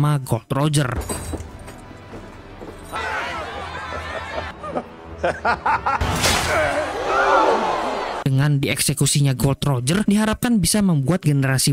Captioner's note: laughs